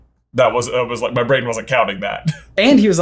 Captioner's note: laughs